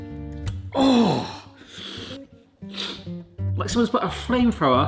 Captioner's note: sniffing